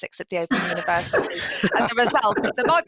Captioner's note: laughter